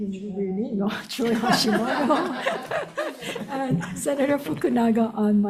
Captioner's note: all laughing; laughs